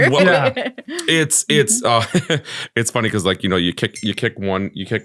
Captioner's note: chuckles